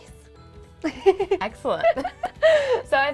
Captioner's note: laughing